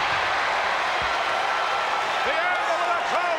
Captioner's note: audience cheering